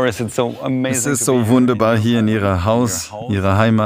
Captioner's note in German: englisch